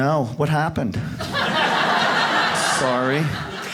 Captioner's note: audience laughs